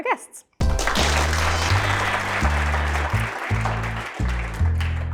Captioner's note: audience applauding